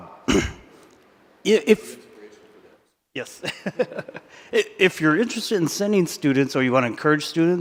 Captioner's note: laughs